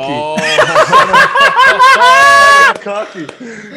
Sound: laugh

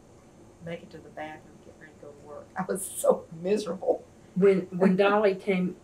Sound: laughs

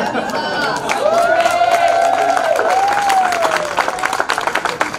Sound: crowd cheers

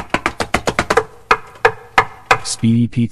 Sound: knocking

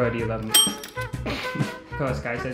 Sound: bell dinging; man laughing

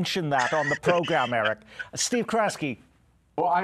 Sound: laughter

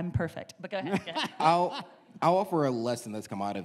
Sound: laughs

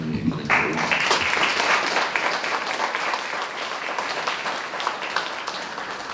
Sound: applause

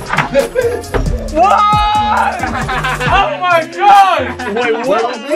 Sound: laughing

